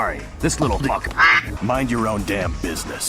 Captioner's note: quack